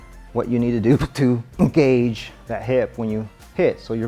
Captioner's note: grunts